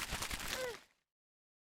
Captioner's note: sounds of rustling leaves; small grunt